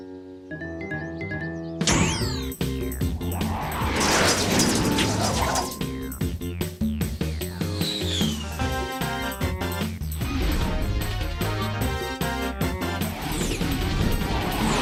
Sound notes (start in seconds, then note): 1.9 whooshing; 2.8 jazzy music